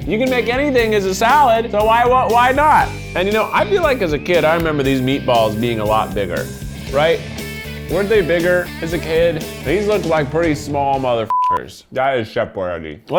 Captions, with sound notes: You can make anything as a salad, so why not? And you know, I feel like, as a kid, I remember these meatballs being a lot bigger. Right? Weren't they bigger as a kid? These looked like pretty small mother (beeps). That is Chef Boyardee.